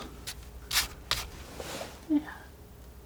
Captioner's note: scratching